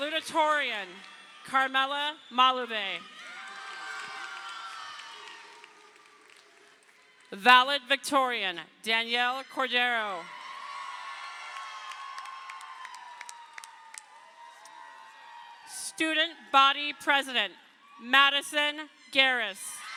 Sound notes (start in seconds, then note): 3.3 crowd cheering; 9.8 crowd cheering; 19.7 crowd cheering